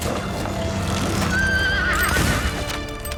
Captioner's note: horse neighing; gun shots firing